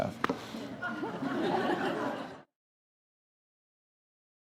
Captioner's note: audience laughs